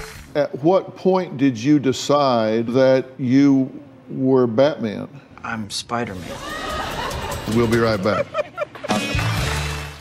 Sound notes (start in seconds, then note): 6.2 audience laughs; 8.3 bully cackles